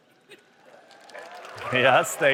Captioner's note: applause